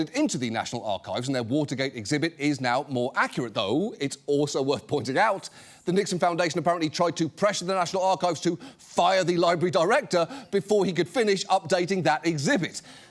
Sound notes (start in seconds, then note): none